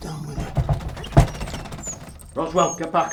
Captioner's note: dog whimpers